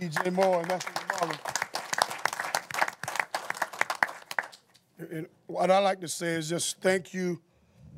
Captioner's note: applause